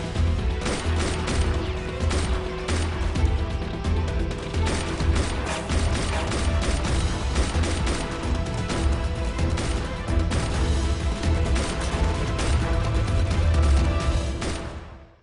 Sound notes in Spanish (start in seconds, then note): 1.6 Disparos